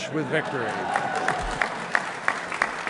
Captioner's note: applause